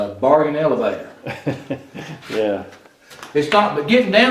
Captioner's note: chuckles